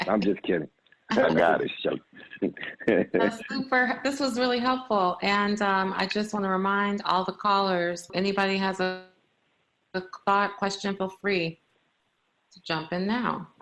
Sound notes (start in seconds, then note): 1.1 laughter